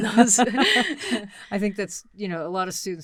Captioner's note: both chuckle